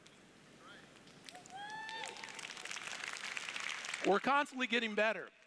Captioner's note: applause